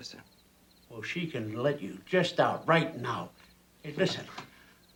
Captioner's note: laughs